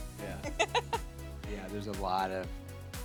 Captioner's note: laughing